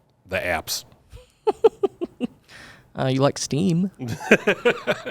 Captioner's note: laughs